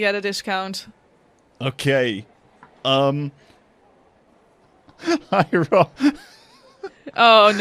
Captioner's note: laughing